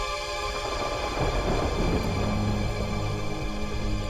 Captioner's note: thunder rumbling